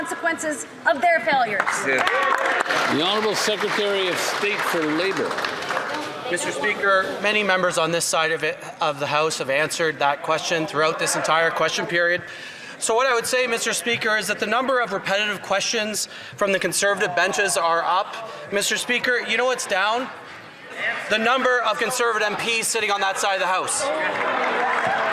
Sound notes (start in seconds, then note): 6.0 some Applause